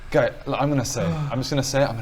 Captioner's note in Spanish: suspiro